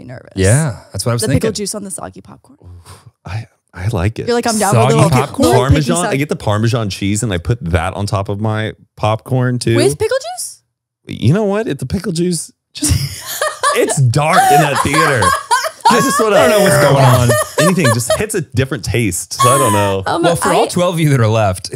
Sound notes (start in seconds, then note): 12.8 laughs